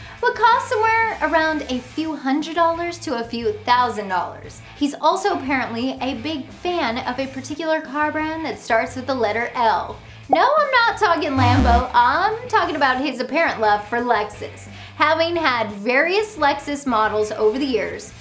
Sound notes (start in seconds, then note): 11.3 graphics pop; 11.3 graphics buzz